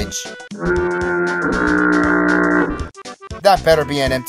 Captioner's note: insert garbage horn sound